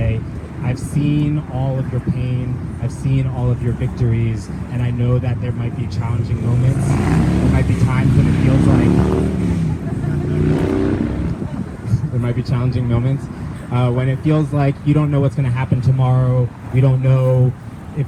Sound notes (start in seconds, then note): 9.0 car engines; 9.5 laughter